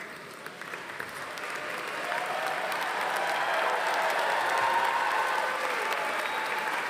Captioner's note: audience applauding; audience cheering